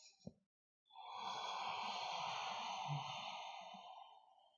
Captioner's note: long exhale